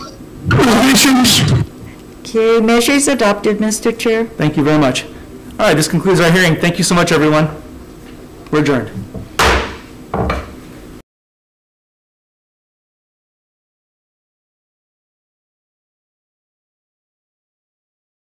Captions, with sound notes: (murmurs) - Okay, measure is adopted, Mr. Chair. - Thank you very much! All right this concludes our hearing. Thank you so much, everyone! We're adjourned! (gavel bangs)